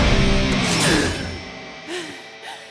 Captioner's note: gasps; panting